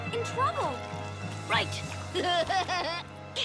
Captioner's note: laughs